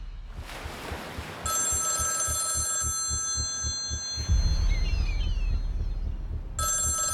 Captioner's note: telephone ringing